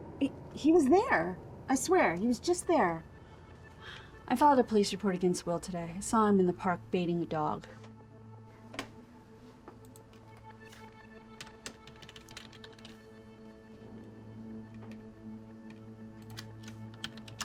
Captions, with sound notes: He was there, I swear, he was just there. - I filed a police report against Will today. I saw him in the park baiting a dog. (keys striking) (soft dramatic music)